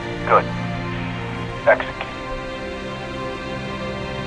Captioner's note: radio